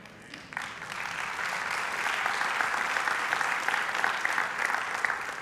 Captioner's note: congregation applauds